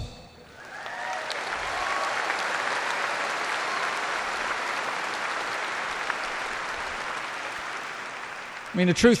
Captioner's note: applause